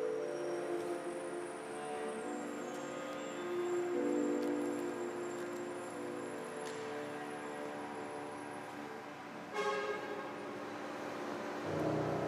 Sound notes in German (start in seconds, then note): 0.2 Gefühlsschwere klassische Musik; 2.5 Leise Verkehrsgeräusche; 9.5 Auto hupt